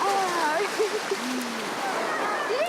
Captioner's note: speaking in Spanish